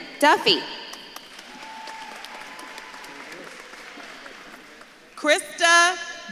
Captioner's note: audience claps and cheers